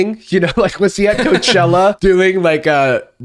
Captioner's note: laughs